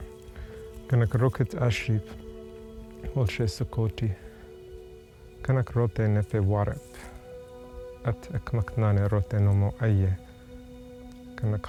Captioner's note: Speaking Chochenyo